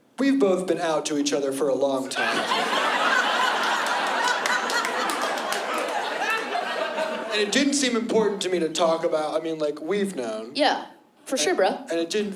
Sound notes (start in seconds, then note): 4.0 laughter